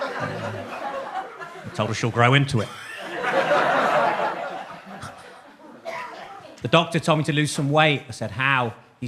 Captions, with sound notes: Told her she'll grow into it. (audience laughs) The doctor told me to lose some weight, I said, "How?"